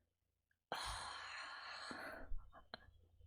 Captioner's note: satisfied sigh